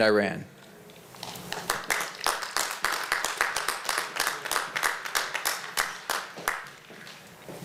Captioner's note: applause